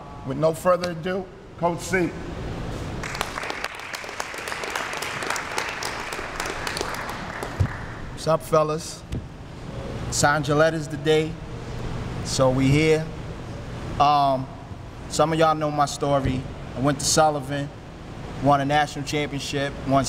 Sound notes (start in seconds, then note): 3.0 applause